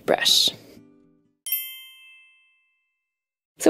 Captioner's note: bells chiming